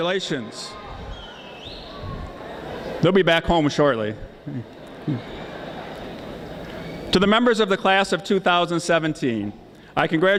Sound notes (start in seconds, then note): 4.4 chuckles; 4.5 audience laughing